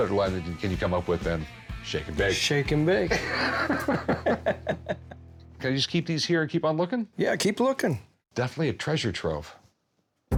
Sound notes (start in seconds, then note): 3.0 laughs